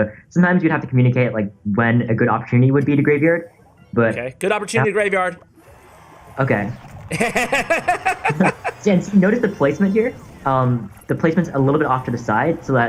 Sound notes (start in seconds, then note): 7.0 laughs